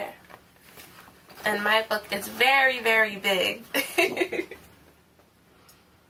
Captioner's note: laughs